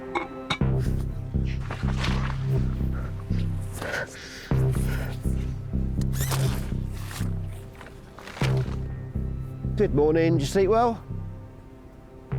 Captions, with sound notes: (metal clangs) (suspenseful music) (tent zipping) - Good morning. Did you sleep well?